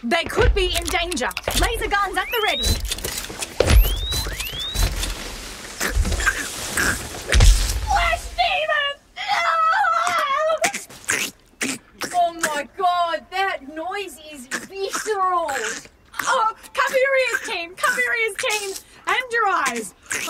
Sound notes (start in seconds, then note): 4.3 guns charge; 15.6 The “flesh demon” makes some strange SQUELCHING SOUNDS